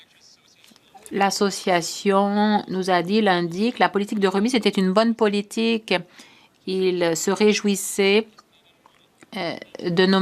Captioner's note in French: voix de l'interprète